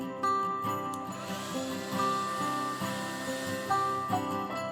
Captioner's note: sound of heat gun